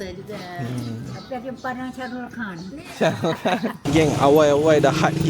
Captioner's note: laugh